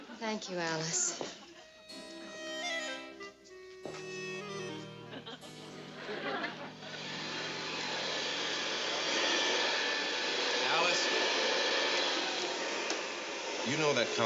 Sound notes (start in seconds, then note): 0.0 audience laughs; 1.7 curious music; 4.4 audience laughs; 7.5 vacuum whirs